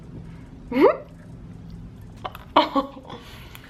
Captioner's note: laughs